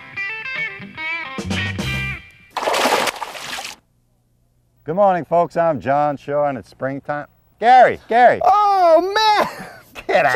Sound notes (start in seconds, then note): 0.4 music stinger; 2.5 splash